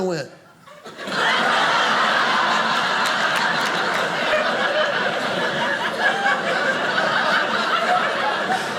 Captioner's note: audience laughing